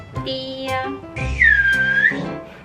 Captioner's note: finger whistle of joy🥲